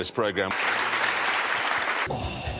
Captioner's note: rapturous applause